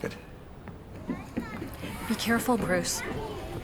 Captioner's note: children chattering